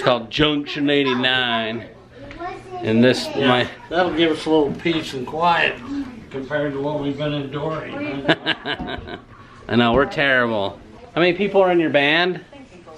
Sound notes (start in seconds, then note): 8.0 laughing